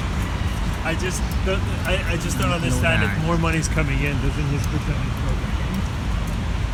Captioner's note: voice of tourists